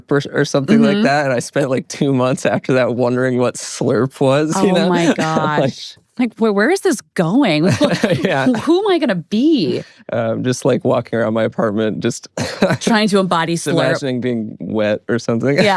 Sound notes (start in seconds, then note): 7.6 laughs; 12.3 laughs